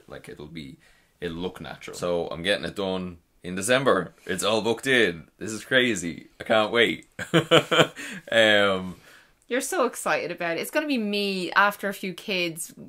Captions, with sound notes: Like it'll be, it'll look natural. So I'm getting it done in December. It's all booked in. This is crazy, I can't wait (laughs). - You're so excited about it. It's gonna be me after a few kids,